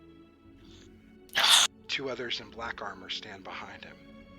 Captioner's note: sighs